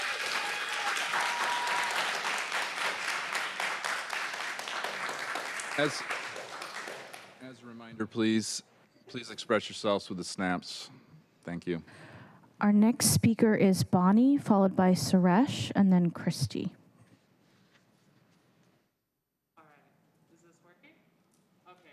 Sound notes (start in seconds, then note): 5.0 applause